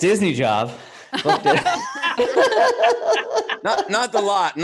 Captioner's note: all laugh